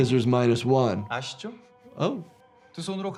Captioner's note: recruiter speaking in Korean